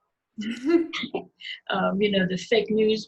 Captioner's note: laughing